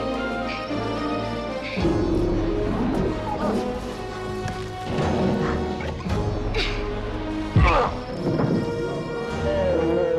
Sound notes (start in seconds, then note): 1.9 bear growling; 6.7 Amy grunts; 7.7 Eli grunts; 7.7 ground thuds; 9.9 bear roaring